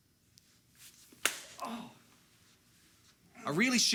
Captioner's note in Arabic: صفعة حادة; آهات